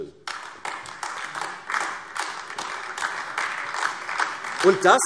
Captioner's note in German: Beifall AfD